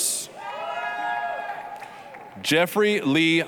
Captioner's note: applause, cheering